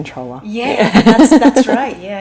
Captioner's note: laughs